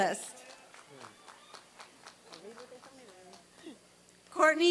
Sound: applause and cheering

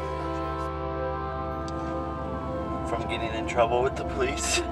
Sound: siren wails

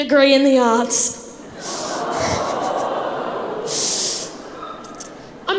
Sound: crowd laughs

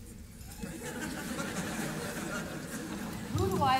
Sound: laughter

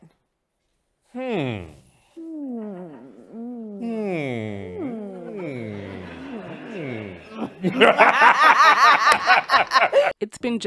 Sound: laughter

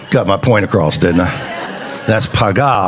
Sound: congregation chattering

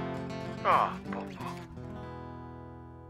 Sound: voiceover

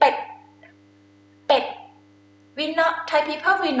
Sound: talking in foreign language

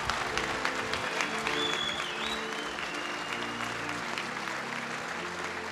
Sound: applause

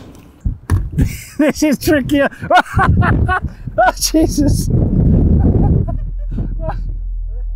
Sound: laughs

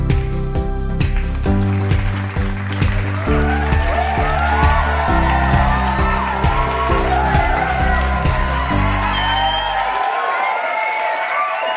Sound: cheery music plays; applauding and cheering

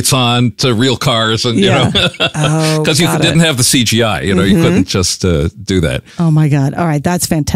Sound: chuckles

